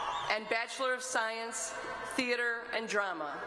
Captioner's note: applause